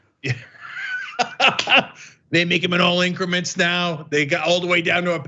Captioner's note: laugh